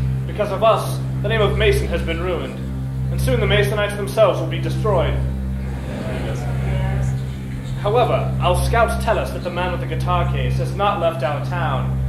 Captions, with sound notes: Because of us, the name of Mason has been ruined. And soon the Masonites themselves will be destroyed. [gleeful murmurs] However, our scouts tell us that the man with the guitar case has not left our town,